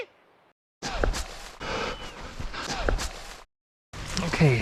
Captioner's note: whistles